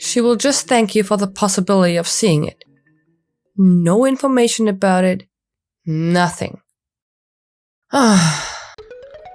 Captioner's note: sigh